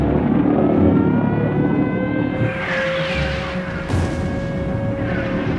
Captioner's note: air raid siren